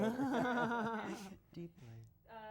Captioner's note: laughs